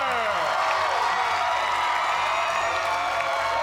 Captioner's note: cheers and applause